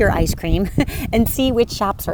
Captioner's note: chuckles